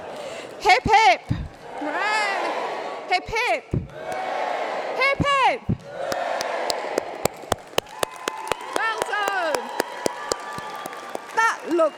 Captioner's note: applause